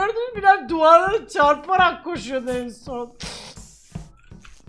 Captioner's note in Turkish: gülerek